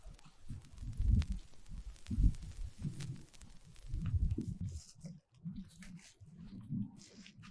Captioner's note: footsteps, damaged audio